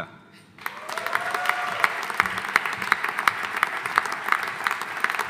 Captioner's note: audience applauding